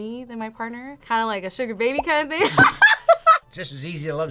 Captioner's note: laughs